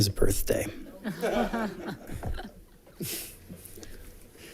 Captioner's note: laughter